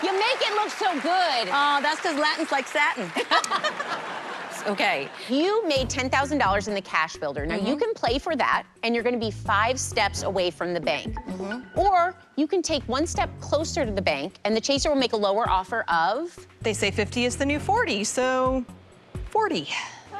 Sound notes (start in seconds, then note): 3.1 laughter